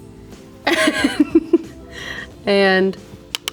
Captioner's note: Rachel laughs